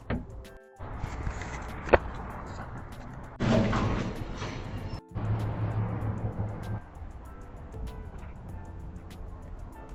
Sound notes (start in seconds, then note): 3.7 dump truck roaring